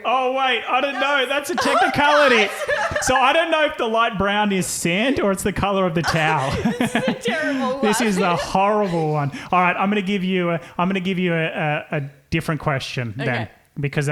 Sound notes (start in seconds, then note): 6.0 laughing